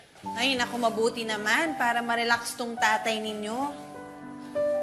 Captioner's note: none